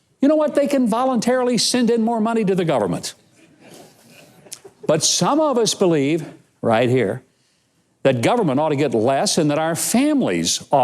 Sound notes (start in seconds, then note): 3.3 audience laughing